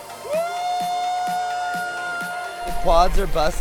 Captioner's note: crowd cheering